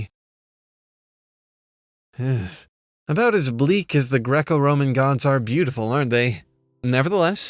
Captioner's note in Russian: вздох